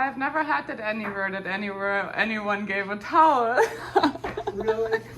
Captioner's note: laughs